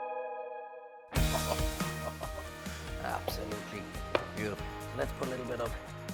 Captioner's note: chuckles